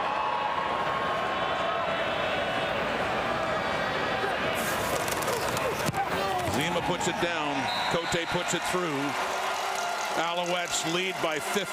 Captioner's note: crowd Noise